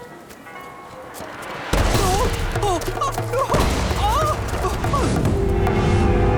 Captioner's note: squealing